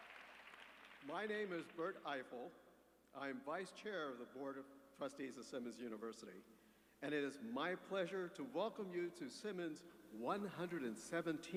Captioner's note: applause